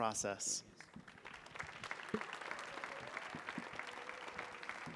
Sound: audience applauding

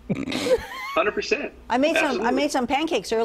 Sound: laughter

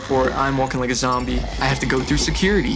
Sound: zombie growls

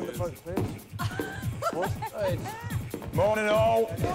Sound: laughing

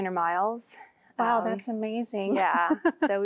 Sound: giggling

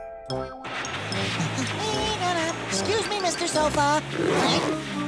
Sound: humming; grunting

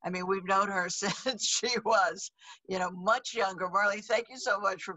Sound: laughs

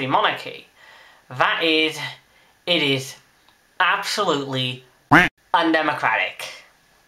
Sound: quack

